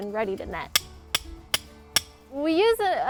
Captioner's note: hammering in stakes